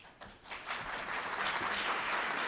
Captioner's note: applause